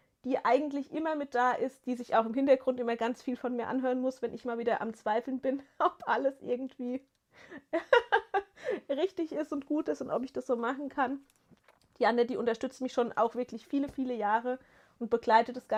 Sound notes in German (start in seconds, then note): 7.5 gelächter